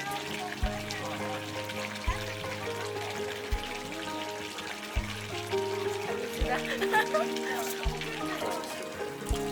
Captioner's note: laughs